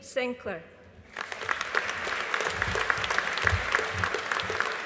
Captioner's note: audience applauding